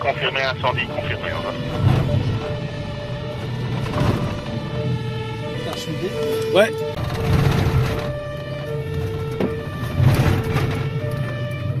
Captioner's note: sirens